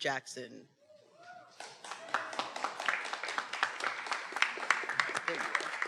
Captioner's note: attendees cheering and applauding